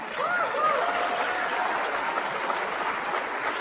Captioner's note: applause